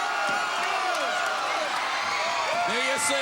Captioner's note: crowd cheering